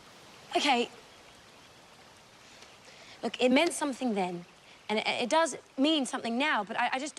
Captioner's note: none